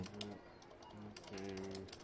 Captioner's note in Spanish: Murmurando